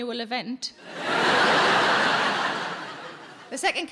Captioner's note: audience laughing